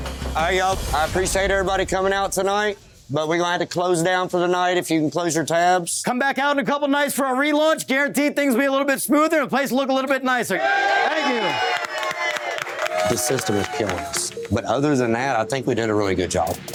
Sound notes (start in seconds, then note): 10.5 cheering